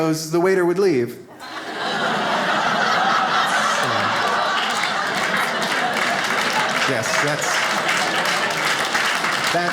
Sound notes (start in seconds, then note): 1.4 audience laughs; 2.4 audience applauding